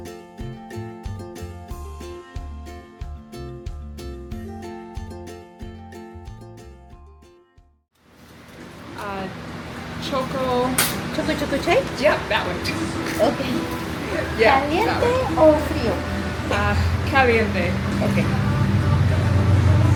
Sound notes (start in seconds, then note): 16.7 Spanish